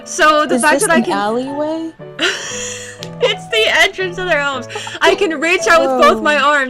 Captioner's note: laughing